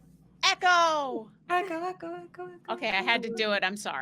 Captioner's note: voice echoing